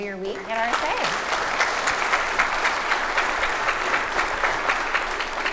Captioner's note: audience applauding